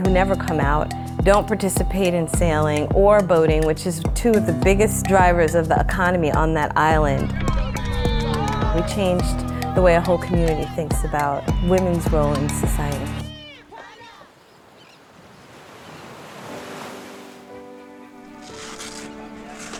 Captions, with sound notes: who never come out, don't participate in sailing or boating, which is two of the biggest drivers of the economy on that island. We changed the way a whole community thinks about women's role in society. (Seagulls squawking) (Waves crashing) (light whimsical music)